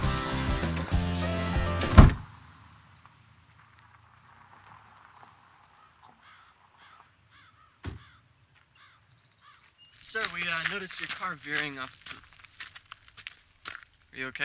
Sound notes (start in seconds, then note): 5.6 bird squawking; 7.8 car door closes